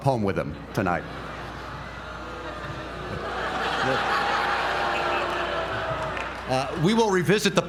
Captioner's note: laugh